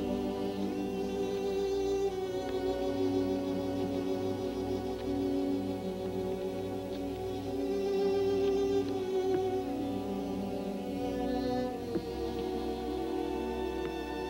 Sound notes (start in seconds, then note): none